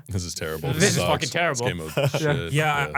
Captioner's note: laughs